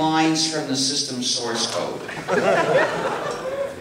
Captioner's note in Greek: Γέλια από το ακροατήριο